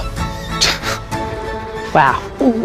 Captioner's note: chuckles